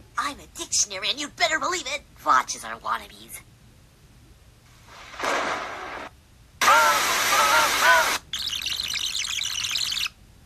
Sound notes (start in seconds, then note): 4.9 lightning Sounds